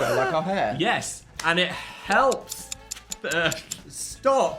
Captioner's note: clock ticking